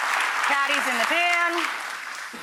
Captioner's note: audience applauding